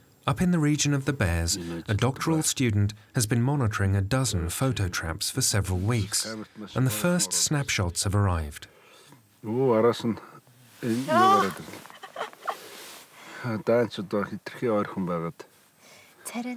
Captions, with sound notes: Up in the region of the bears, a doctoral student has been monitoring a dozen photo traps for several weeks, and the first snapshots have arrived. [Mongolian spoken audio]